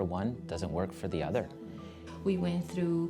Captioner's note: murmuring